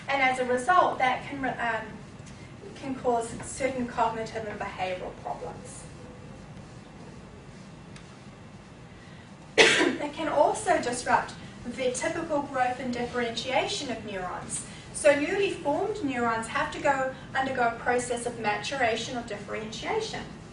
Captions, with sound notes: And as a result that can cause certain cognitive and behavioral problems. [Coughing.] It can also disrupt the typical growth and differentiation of neurons. So newly formed neurons go through a process of maturation or differentiation,